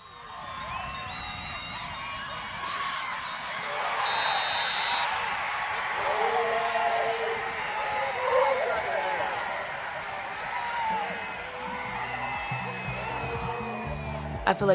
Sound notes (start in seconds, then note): 0.6 crowd cheers